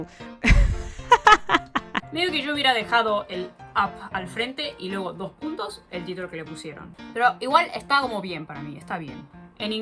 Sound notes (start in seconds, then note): 0.4 more laughs